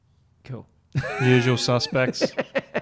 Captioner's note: laughs